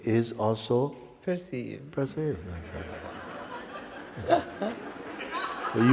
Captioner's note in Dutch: gelach